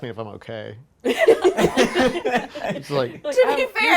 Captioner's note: laughing